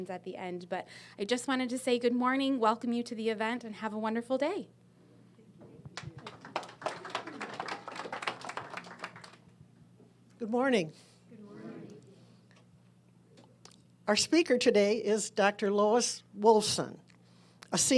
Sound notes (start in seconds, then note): 5.9 audience applauding